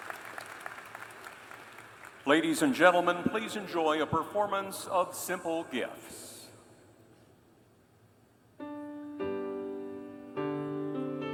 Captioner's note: applause